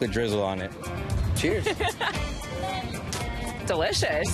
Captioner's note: laughs